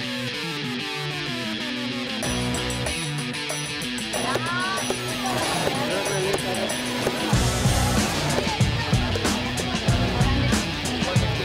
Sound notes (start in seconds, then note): 4.0 distant chatter; 4.7 thudding